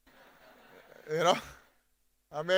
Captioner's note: audience laughing